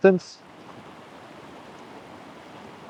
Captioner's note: wind blowing